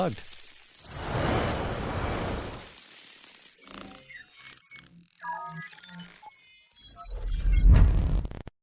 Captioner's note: radio static and electronic noises